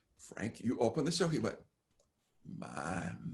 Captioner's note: murmur